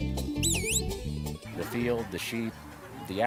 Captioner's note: upbeat acoustic music; whistling